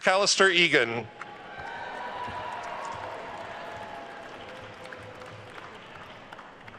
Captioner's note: attendees cheering and applauding